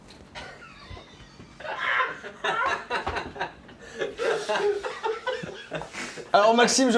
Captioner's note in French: rires